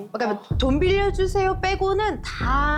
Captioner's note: thud sound effect